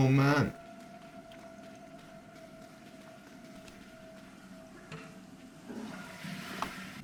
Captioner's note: door opens